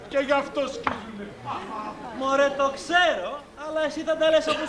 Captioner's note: γέλιο